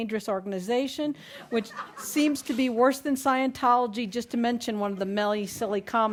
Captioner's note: laughter